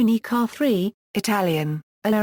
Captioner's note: Italian